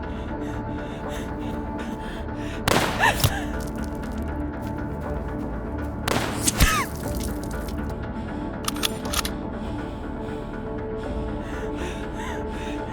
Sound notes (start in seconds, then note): 2.6 gun firing; 3.0 gasping